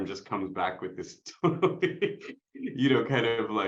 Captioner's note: laughs